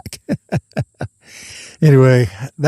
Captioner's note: laughs